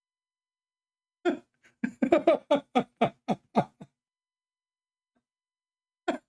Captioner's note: Ketawa